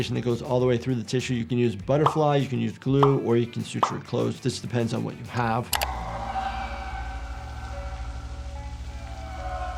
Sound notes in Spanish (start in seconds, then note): 5.9 la criatura grita distantemente